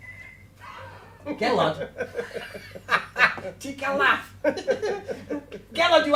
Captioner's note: laughter